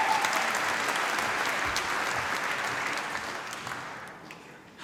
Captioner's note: applause